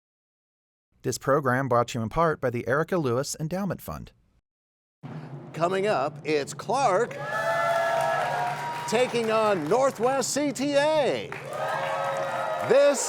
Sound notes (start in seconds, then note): 6.8 cheers and applause